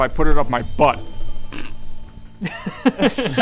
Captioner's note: snickers